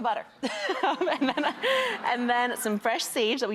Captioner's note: laughing